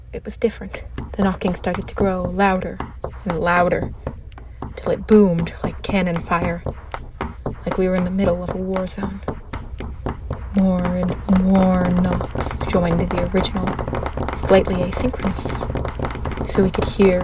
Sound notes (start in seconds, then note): 0.7 knocking begins and grows louder